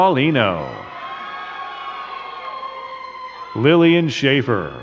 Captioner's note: crowd cheering and clapping